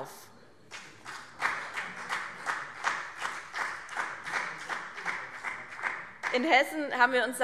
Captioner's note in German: Vereinzelter Beifall BÜNDNIS 90/DIE GRÜNEN und CDU